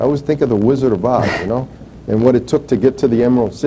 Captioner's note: chuckles